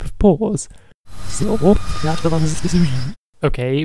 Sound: rewind sound

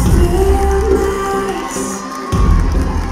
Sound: cheers and applause

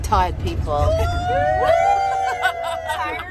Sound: all cheer

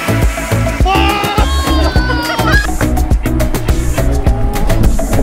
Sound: shouting and laughing

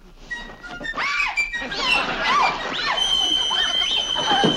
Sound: screams

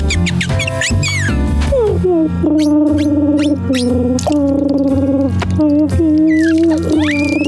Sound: chirping; humming; humming, crying

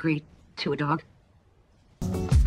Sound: silence

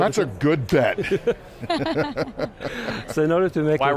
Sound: laughing

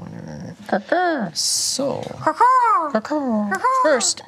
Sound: group caws like crows

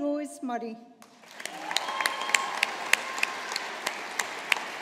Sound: audience applauding

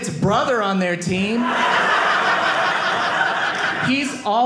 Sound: audience laughing

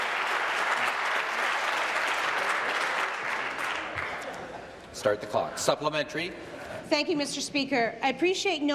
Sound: applause

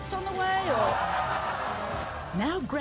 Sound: audience boos and laughs

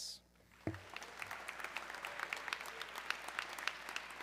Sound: audience clapping

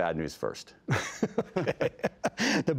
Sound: laughter

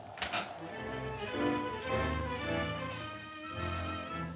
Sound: chair creaking

